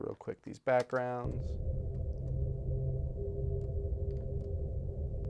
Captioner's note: electronic hum plays